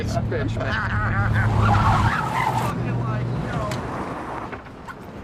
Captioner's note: tires screeching